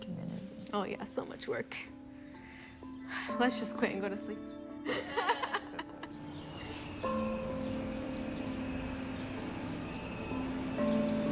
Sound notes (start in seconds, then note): 1.6 sighs; 4.8 laughter